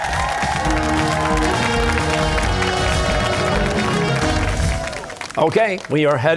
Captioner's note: cheers and applause